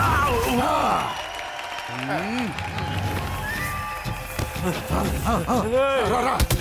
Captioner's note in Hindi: तालियाँ